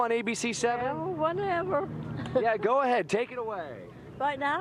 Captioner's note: laughter